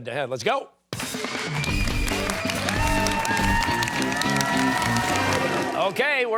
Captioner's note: cheers and applause